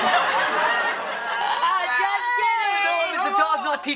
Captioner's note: group exclaims